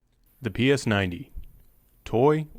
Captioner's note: voiceover